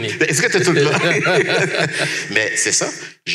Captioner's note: laughs